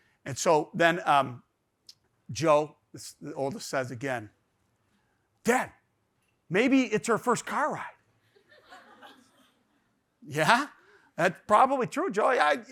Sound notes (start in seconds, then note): 8.6 audience laughs